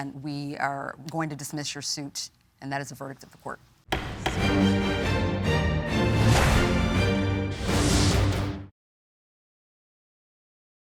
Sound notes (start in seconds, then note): 3.9 gavel banging; 3.9 intense music